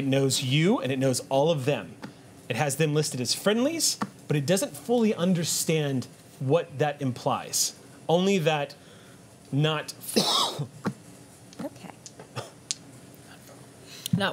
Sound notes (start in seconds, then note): 10.1 coughs